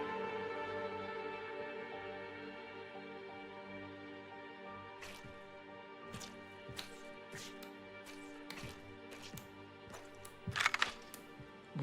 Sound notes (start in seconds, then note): 4.9 water sloshes; 9.9 gun pump clacks